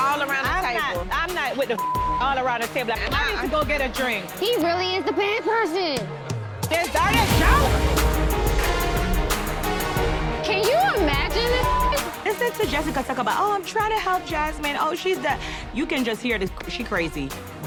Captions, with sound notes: - I'm not with the (beep) all around the table. I need to go get a drink. - He really is the bad person. - Is that a joke? (dramatic music) - Can you imagine this (beep)? - Listening to Jessica talk about, "Oh, I'm trying to help Jasmine. Oh she's the." You can just hear this, she crazy.